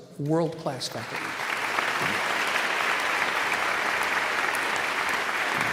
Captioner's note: audience applauding